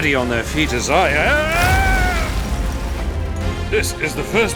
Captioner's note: jack yells